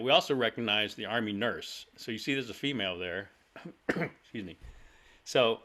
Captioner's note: cough